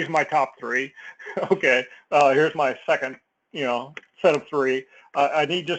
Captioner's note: laugh